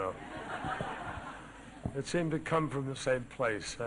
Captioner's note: laughter